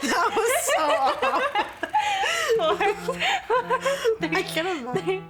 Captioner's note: laughing; laughs